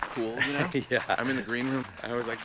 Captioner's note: laughing